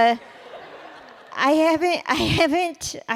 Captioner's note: laughter